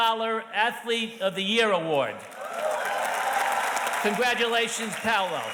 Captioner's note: audience cheers and applauds